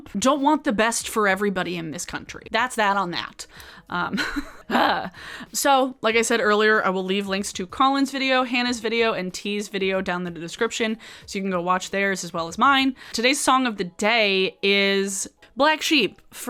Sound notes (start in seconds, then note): 4.2 laughs